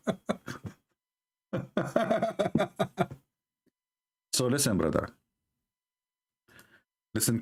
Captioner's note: Ketawa